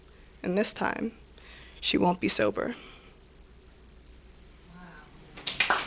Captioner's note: clapping